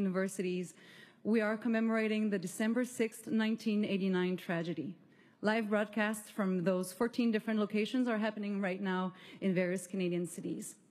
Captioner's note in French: voix de l'interprète